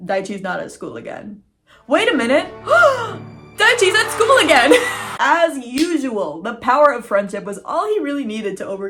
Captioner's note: crowd cheering